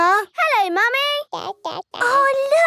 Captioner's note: babbling